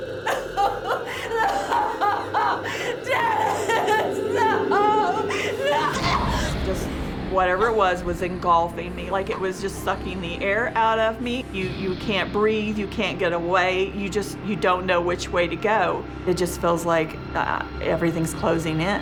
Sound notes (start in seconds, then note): 0.0 crying; 5.6 gasps